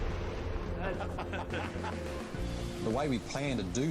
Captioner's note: laughter